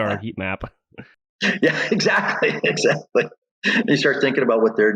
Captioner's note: laughs